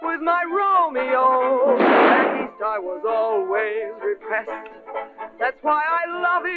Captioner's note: gunshot